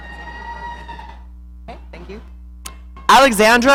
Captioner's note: audience cheering